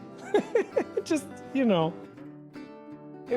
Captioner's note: laughs